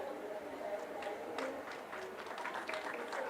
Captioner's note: applause